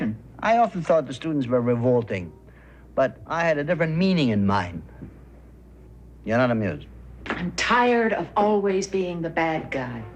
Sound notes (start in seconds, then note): none